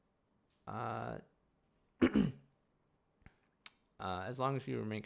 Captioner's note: clears throat